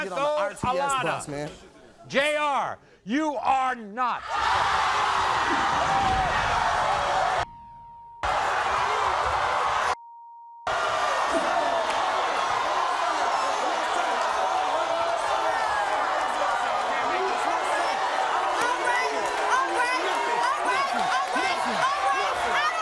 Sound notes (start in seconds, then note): 4.2 audience cheers; 7.5 beep